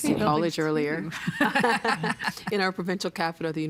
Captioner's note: laughing